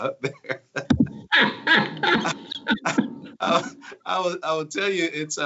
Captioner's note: laughter